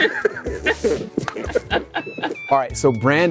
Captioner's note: people laughing